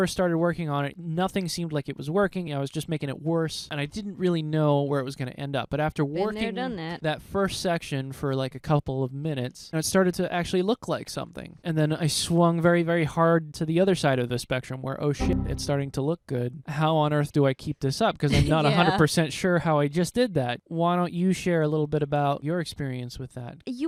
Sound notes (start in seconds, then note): 18.2 laughing